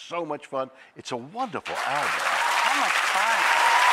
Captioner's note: audience applauding